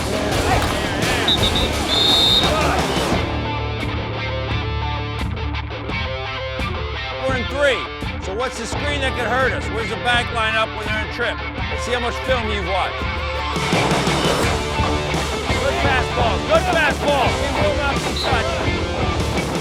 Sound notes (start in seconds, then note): 0.1 rock music; 1.1 whistle blowing; 3.5 rock music; 14.0 rock music; 19.0 rock music